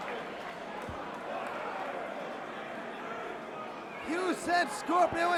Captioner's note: crowd chatter